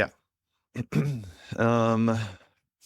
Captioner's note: clears throat